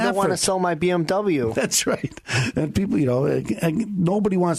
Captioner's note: laughing